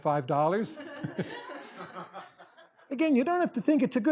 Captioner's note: audience laughter